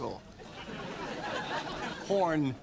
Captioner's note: audience laughs